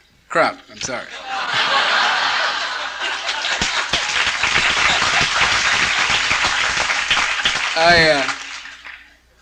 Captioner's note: laughter and Applause